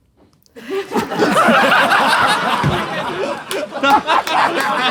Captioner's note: people in room laughing